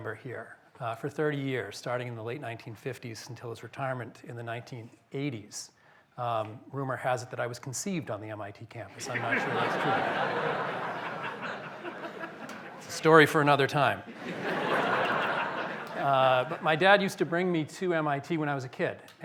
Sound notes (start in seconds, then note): 9.0 laughter